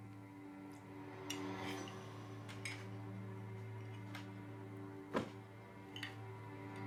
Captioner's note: tense string music; silverware scraping